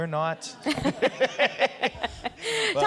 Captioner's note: laughter